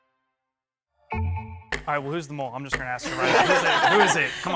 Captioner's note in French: rires